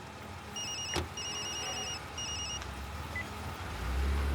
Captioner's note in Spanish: Suena celular